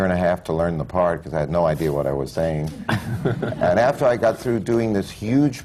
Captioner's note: laughter